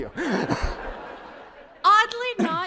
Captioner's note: laughter